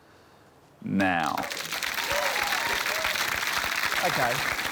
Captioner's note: cheering, applause